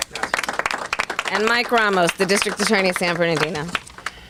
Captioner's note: clapping